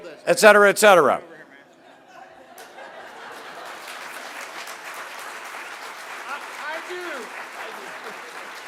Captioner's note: applause